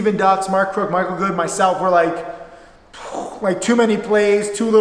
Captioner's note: breathes